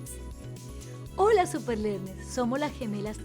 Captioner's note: speaking Spanish